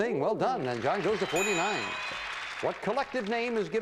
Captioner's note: audience applauding